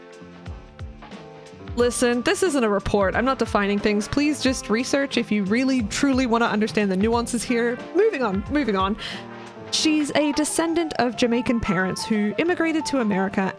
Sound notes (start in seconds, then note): none